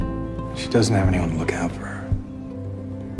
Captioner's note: voiceover